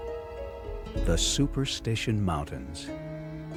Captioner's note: voiceover